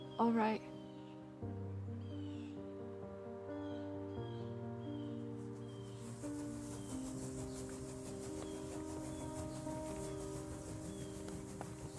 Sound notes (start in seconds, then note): 3.5 gentle upbeat music; 7.7 birds chirping